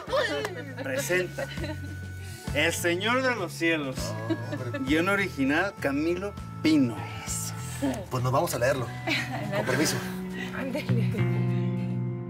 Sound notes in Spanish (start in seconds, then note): 0.2 risas y exclamaciones; 9.0 risas